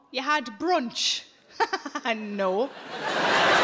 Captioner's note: chuckling